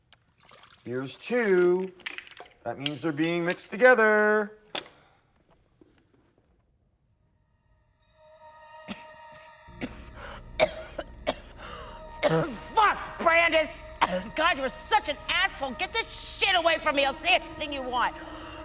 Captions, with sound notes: Here's two. That means they're being mixed together. (coughing) - Fuck, Brandis! God, you are such an asshole. Get this shit away from me. I'll say anything you want.